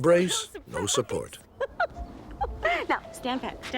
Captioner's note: laughing